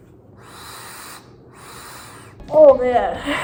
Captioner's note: inhaling; laughs